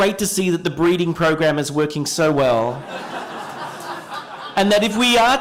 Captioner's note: laughter